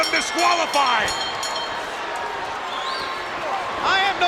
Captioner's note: bell ringing; blows thudding